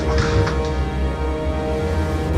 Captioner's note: ominous music; door squeaks